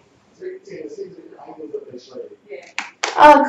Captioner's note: family talking in the background